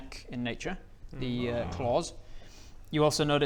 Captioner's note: concerned noises